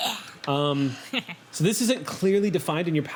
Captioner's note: laughs